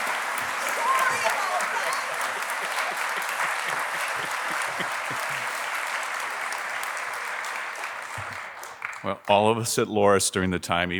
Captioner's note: applause